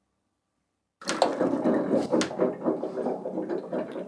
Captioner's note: water gurgling